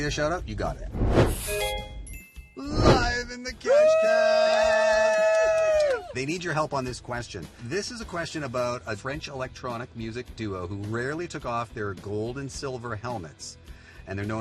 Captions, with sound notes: Social media Shout Out? You got it. [Chiming] Live in the Cash Cab! [Cheering] They need your help on this question. This is a question about a French electronic music duo who rarely took off their gold and silver helmets.